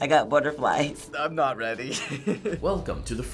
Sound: chuckles

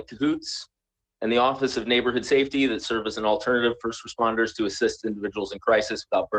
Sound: ~audio distortion~

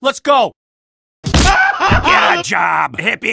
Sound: smash

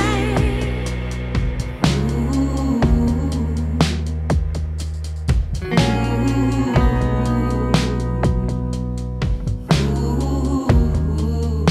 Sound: melodic humming

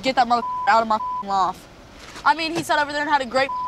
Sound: beep; beep

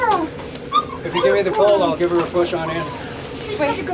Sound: puppy barks

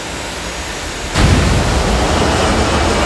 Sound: explosion

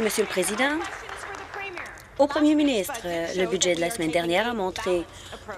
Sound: applause

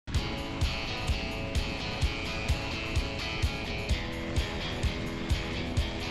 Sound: skis whooshing; upbeat music

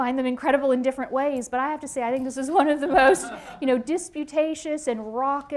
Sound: laughter

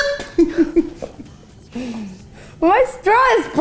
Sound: laughing

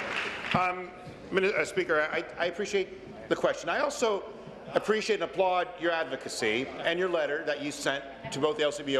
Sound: applause

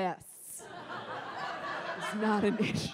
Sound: audience laughs

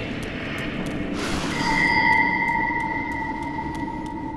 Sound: ding

